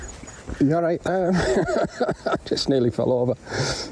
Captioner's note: laughing